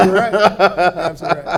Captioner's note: laughter